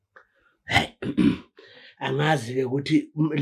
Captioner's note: clears throat